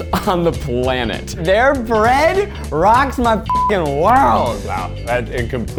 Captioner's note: beeps